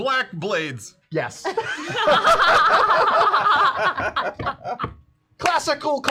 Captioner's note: laughter